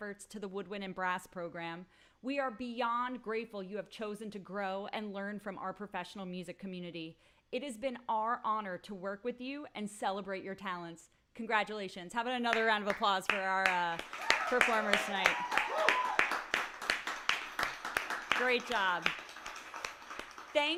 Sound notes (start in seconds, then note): 13.9 applause and cheers